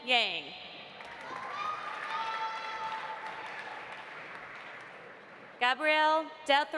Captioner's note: audience applauding; audience cheering